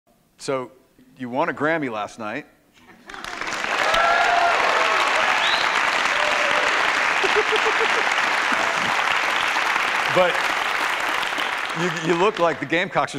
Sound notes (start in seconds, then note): 3.0 audience applause; 7.1 laughter